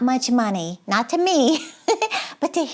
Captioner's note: giggles